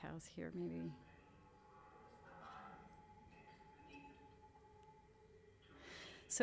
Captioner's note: echoing resonant voice